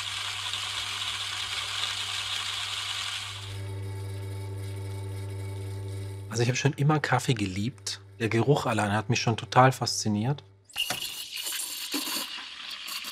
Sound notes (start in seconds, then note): 3.3 quiet humming